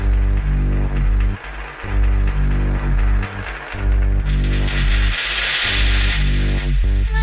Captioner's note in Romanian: Aplauze